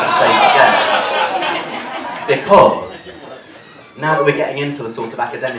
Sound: cheering

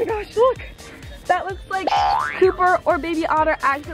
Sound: boing

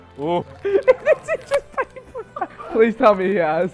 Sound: laughs

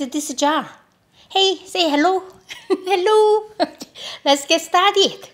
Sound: laughs

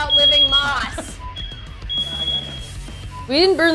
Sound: fire alarm continues to sound; laughs

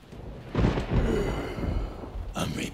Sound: heavy breathing

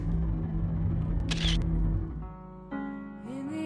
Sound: camera click sound

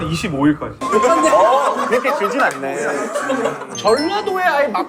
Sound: suprised

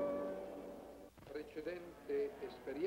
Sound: speaking in foreign language

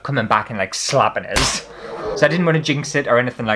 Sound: slap!!

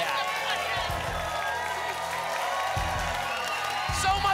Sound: applause and cheering cont

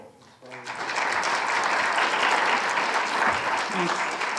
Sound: applause

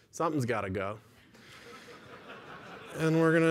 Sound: laughter

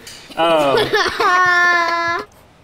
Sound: laughs

